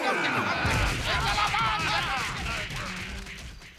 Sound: all clamoring

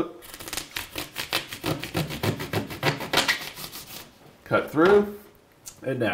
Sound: sawing float

